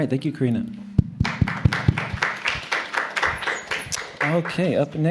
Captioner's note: applause